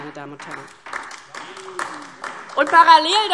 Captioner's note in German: Beifall DIE LINKE